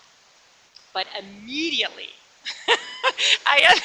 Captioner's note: laughs